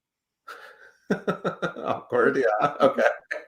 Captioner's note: laughs